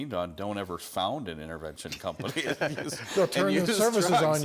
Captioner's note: laughs